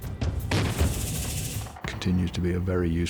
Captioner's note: sound of explosion